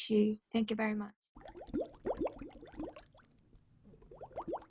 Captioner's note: bubbles popping